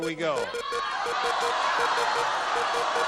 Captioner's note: beeping; cheering